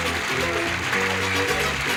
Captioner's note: applause